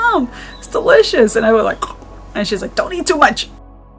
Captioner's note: biting cacao